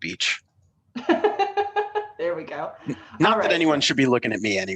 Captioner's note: laughter